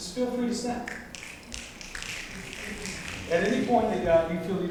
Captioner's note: audience snapping